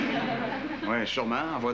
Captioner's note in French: Rires